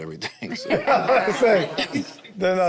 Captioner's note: group laughs